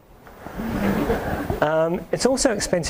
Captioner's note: audience laughs